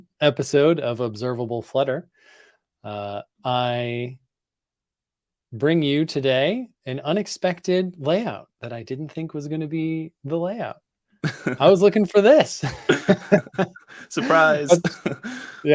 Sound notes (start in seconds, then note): 11.2 laughs; 12.6 laughter